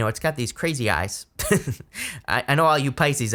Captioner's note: laughing